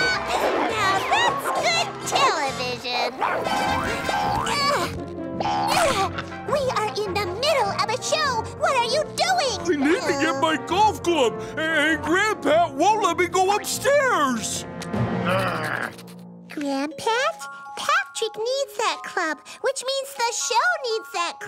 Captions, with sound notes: Now, that's good television. [grunting] We are in the middle of a show. What are you doing? I need to get my golf club, a-and Grand Pat won't let me go upstairs. [grumbling] Grand Pat, Patrick needs that club which means the show needs that club